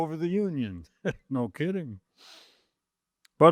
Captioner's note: chuckling